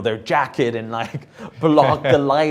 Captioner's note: chuckles; laughs